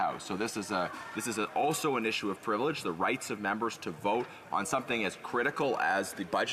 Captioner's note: none